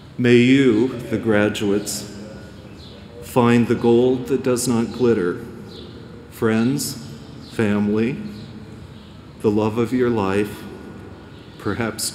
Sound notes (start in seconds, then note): none